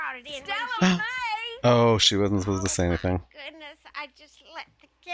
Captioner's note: gasp